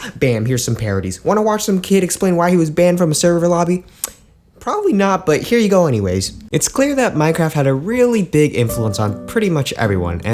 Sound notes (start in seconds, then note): 4.0 click